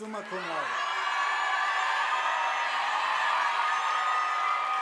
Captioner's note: audience applauding